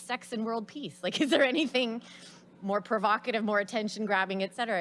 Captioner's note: laughs